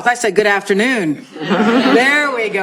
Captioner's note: laughter